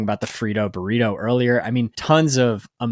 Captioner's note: screen clicking